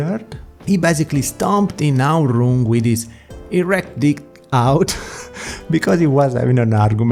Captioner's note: laughs